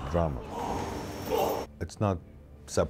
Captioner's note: grunting